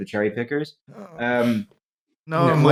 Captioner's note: soft moan of displeasure